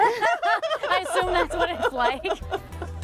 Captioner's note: women laugh